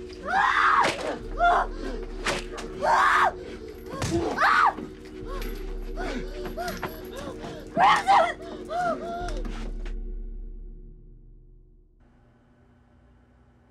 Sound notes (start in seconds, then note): 0.2 screaming; 0.8 whipping continues; 2.8 screams